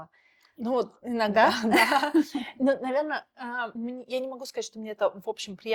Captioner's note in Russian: смех